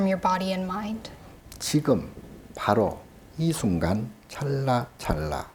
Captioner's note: speaking Korean